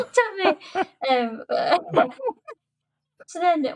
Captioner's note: laughter